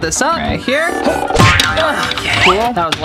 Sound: boing

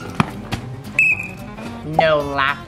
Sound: whistle blows

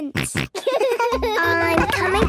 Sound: giggles, snorts

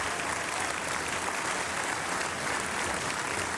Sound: applause

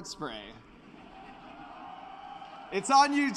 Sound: laughter

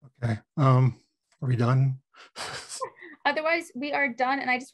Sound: laughs

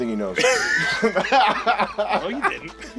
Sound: laughs

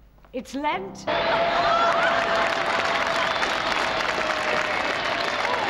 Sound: laughter and applause

